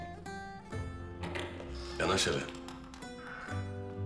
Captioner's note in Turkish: Kapı açılma sesi